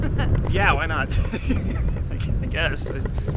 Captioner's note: laughs